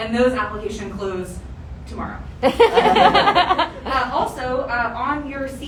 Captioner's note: audience laughter